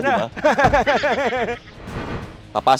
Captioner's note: laughing menacingly